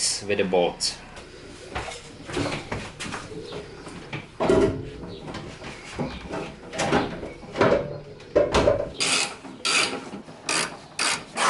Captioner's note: construction sounds